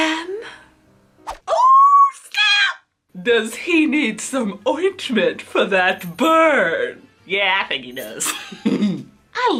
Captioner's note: laughs